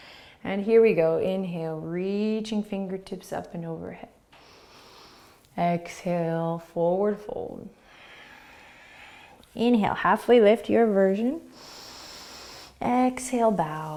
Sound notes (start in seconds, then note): 4.5 inhaling; 7.8 exhaling; 11.5 inhaling